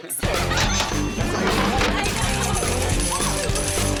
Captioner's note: coins rattle; upbeat music